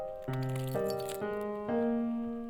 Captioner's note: keys jingling